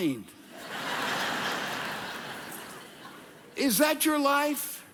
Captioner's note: audience laughing